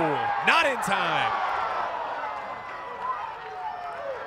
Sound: crowd cheering

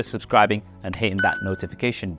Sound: bell dings

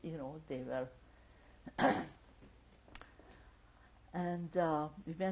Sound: pauses for 3 seconds

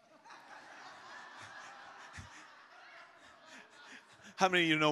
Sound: congregation laughs

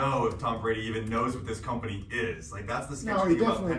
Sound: none

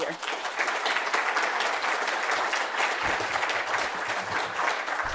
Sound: applause

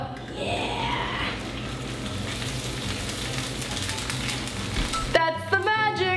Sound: egg sizzles in pan

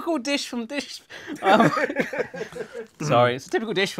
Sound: laughs

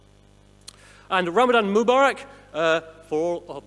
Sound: speaking in foreign language

